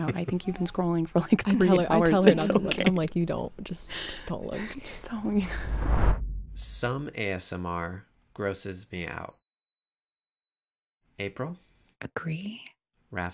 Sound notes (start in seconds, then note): 5.6 frame whooshing; 9.4 slow music